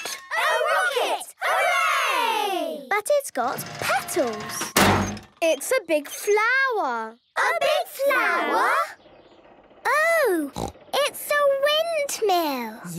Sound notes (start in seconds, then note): 4.7 crane beeping